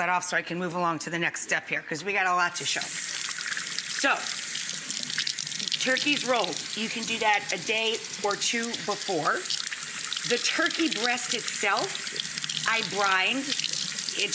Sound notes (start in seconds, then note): 3.4 water running